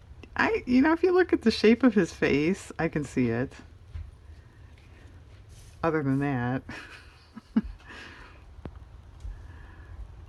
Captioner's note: laughs